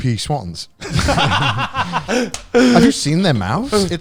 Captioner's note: all laughing loudly